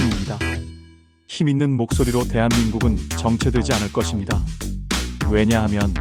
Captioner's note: in a powerful voice